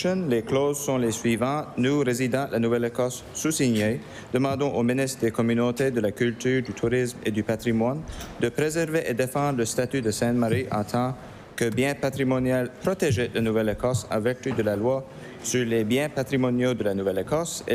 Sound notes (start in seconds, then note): 6.7 speaking french